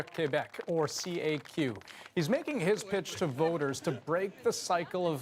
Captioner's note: cheers and applause